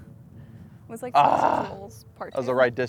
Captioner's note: Bryson groans